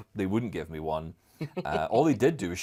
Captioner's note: laugh